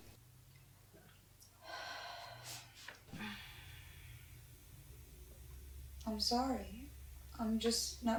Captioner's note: Ruth sighs